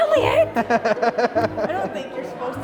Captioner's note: laughing